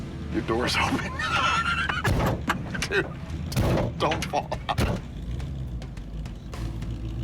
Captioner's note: laughs